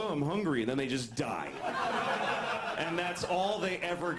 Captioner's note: laugh